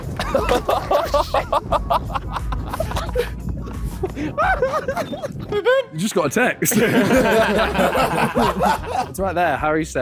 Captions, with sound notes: - Oh, sh*t [people laughing] - Boo-boop! You just got a text. [men laughing] It's right there.